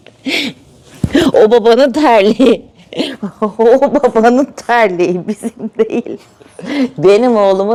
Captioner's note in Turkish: kahkaha